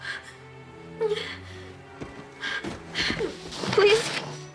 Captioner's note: whimpers